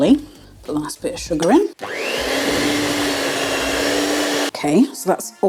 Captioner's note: cake mixer whirring